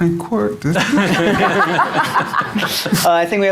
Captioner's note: audience laughing